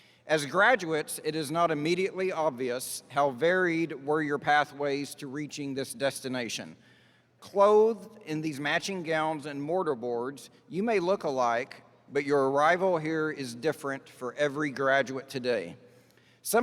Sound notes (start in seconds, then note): none